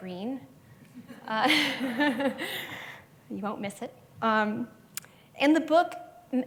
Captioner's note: laughs